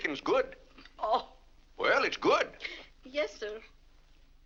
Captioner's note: laughs